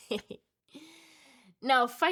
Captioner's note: laughs